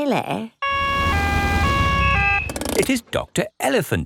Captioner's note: siren wails